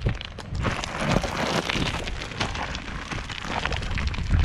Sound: rocks crunching

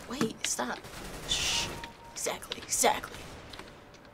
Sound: kill chime

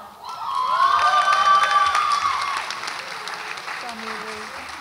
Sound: audience applauds and cheers

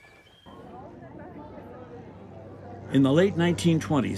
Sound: crowd murmuring

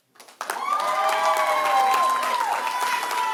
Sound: applause; cheering

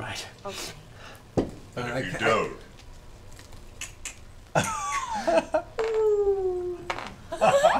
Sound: falling sound

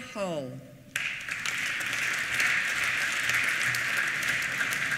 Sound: applause

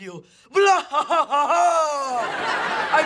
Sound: evil laugh

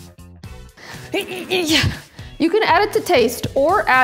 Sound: grunts

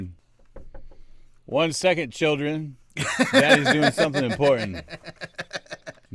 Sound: knock on the door

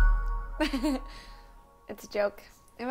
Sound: laughs

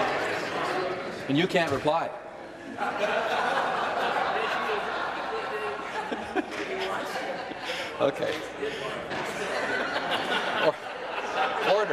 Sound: laughter

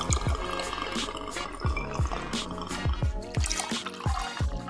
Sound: pouring liquid

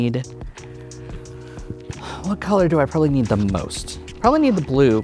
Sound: exhales

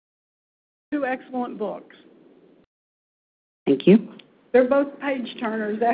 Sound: audio break

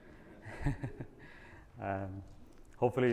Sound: audience laughing

